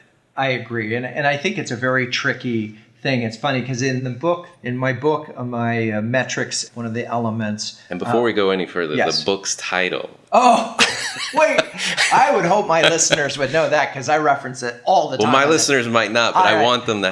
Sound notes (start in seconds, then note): 10.4 laughs